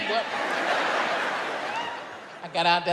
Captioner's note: audience laughs